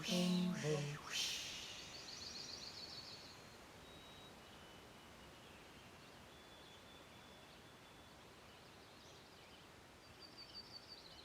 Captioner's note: natural sounds: wind, water, birds